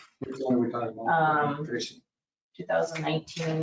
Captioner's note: speaking faintly